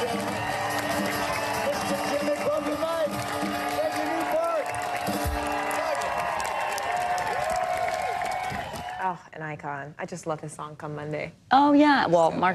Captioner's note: cheers and applause